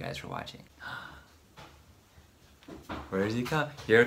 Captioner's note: gasps